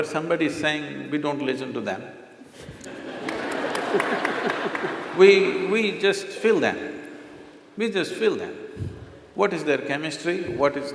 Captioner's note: laughter/Applause